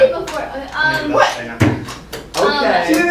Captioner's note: slams table